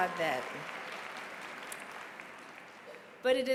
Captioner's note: applause